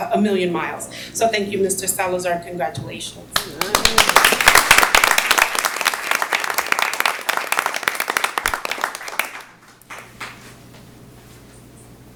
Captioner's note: applause